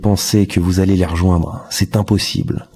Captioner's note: french dialogue continues